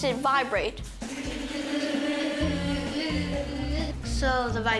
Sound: making vibration noises

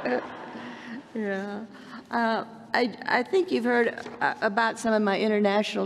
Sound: laughter

